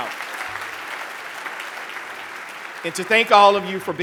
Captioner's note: applause